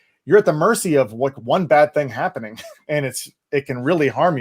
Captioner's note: chuckling